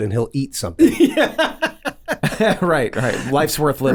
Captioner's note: laughs